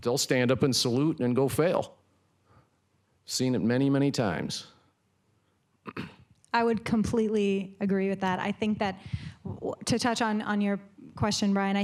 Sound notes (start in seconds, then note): 5.8 clears throat